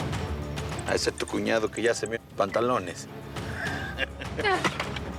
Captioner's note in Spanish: suena el celular